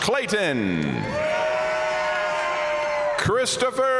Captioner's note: audience cheering and applauding